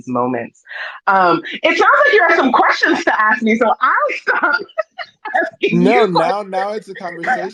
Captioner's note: laughs